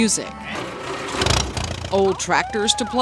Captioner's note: tractor engine spurts